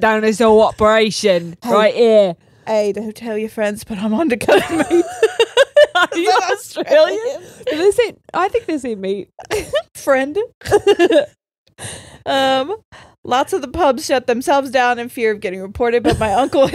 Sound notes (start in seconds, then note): 4.5 all laughing; 10.6 all laughing